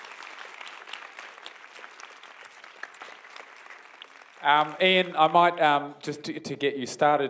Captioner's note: applause